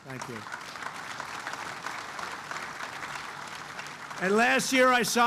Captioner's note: applause